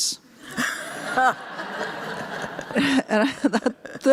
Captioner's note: laughter